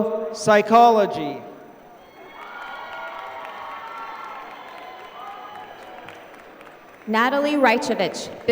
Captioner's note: applause